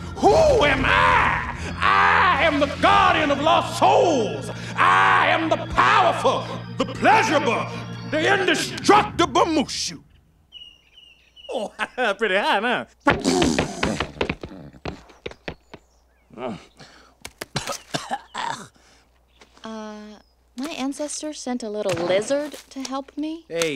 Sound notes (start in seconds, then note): 14.4 chuckling; 16.3 grunting; 17.4 coughing